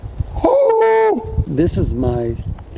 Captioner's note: yelps